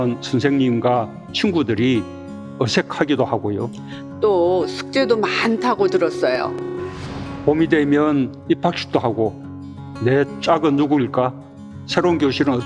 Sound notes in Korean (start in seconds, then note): 4.2 메시지 알림음